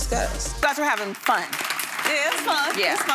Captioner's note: audience clapping